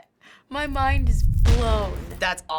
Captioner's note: kaboom